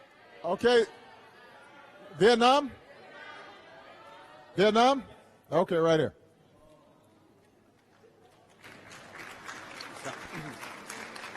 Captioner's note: applause